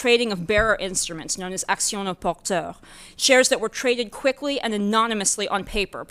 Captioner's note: french